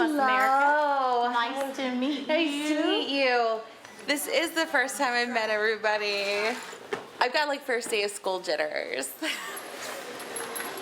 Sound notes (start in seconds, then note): 9.1 laughs